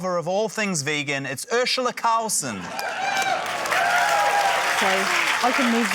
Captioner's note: cheering, applause